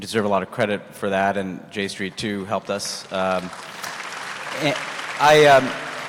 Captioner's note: applause